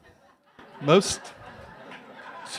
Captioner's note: audience laughs